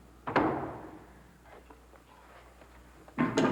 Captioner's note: door slams